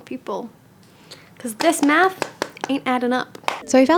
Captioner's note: tapping pen